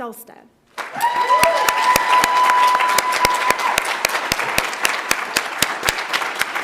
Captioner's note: audience applauds; audience cheers